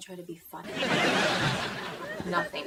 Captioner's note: audience laughing